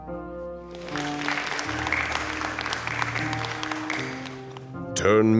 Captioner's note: applause